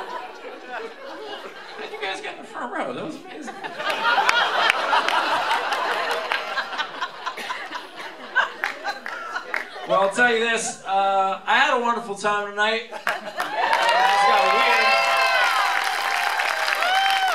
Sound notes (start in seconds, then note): 3.2 laughter; 13.0 applause